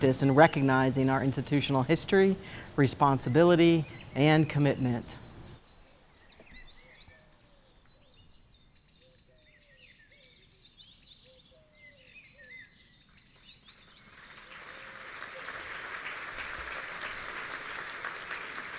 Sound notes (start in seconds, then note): 9.3 audience applauding; 9.3 birds chirping